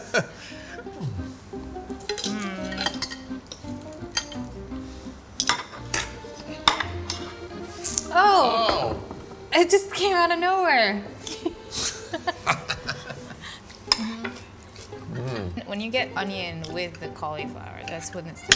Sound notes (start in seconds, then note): 0.0 Yotam laughs; 0.0 laughs; 1.9 cutlery hitting plate; 1.9 gentle music; 12.0 laughs; 12.2 Yotam laughs; 12.9 cutlery hitting plate